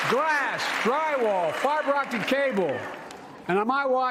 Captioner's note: cheers and applause